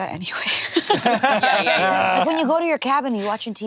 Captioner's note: all laughing